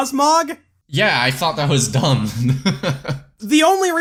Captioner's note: laughs